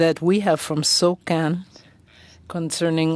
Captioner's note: speaking French